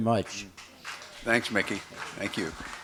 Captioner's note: applause